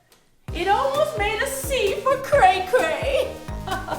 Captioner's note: chuckles